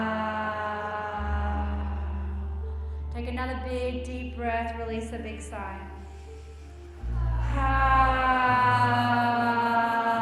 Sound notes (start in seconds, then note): 6.9 all sigh